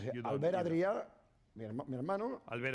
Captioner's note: speaking spanish